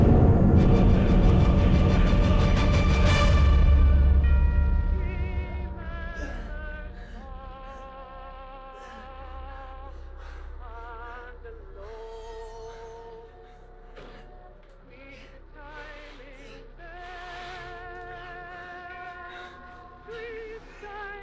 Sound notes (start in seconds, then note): 0.0 dramatic orchestral music; 4.5 Clint groaning softly